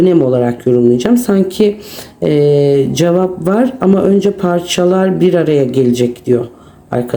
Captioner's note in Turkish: homurdanır